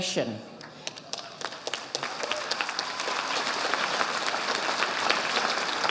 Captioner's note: audience applauding